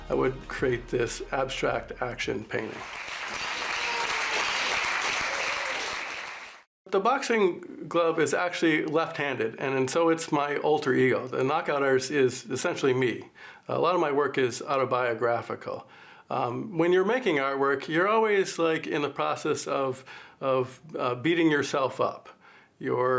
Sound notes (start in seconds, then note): 2.6 audience clapping